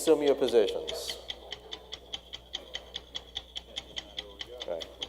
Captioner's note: clock ticking